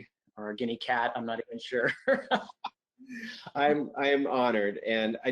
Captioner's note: laughs